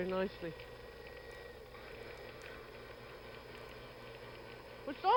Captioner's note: whirring